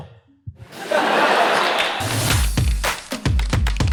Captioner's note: audience laughter